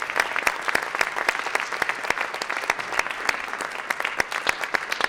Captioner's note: applause continues